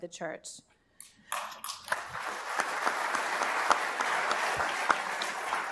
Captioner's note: applause